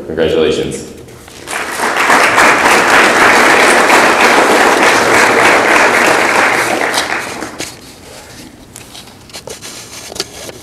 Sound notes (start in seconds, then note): 1.3 audience applauds